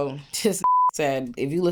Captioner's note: beep